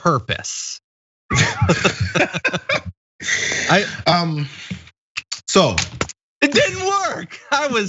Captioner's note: laugh